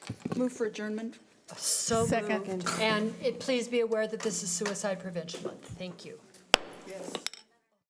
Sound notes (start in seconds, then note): 6.5 gavel bangs